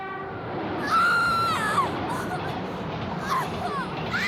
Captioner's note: screams